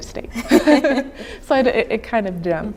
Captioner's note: laughing